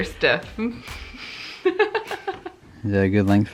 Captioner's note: laughs